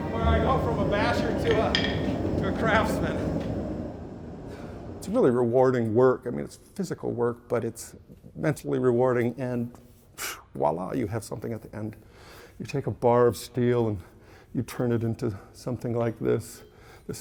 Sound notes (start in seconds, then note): 3.3 laughs; 12.1 exhales